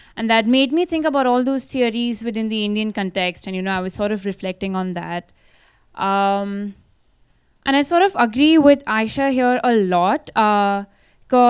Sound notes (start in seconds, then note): none